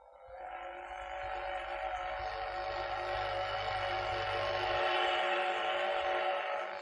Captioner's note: train whistle